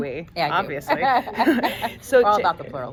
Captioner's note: women laughing